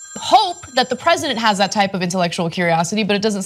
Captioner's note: phone